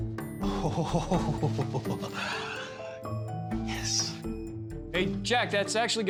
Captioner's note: giggling